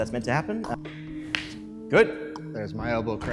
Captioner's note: crack